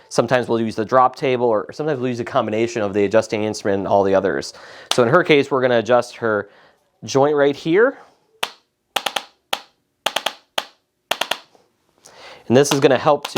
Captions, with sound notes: sometimes, we'll use the drop table, or sometimes, we'll use a combination of the adjusting instrument and all the others. So in her case, we're gonna adjust her joint right here. (knocking) And this is gonna help